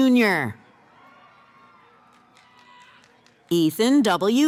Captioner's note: cheering